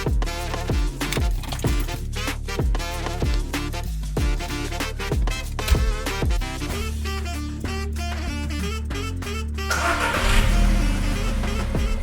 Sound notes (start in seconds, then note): 5.6 car door closing; 9.7 engine start